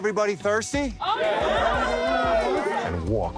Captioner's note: crowd